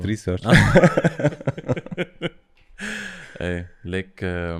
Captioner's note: laughter